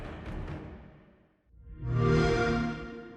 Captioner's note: xbox sound